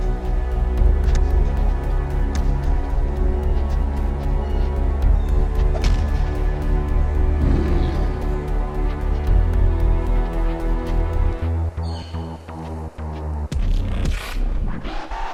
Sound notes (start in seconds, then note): 7.4 roars